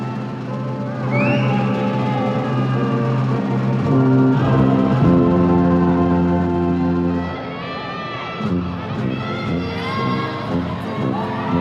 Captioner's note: audience applause and cheers continues; band plays